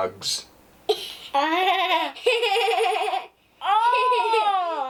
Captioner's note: laughter